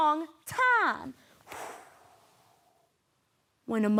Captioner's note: exhaling out